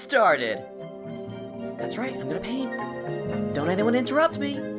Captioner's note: mumbling